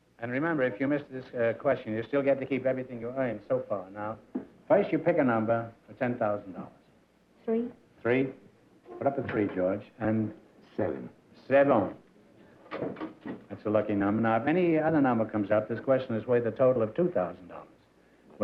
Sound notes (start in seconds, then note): none